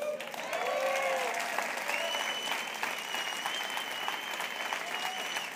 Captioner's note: audience cheering and applauding